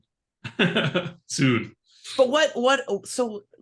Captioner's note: laughing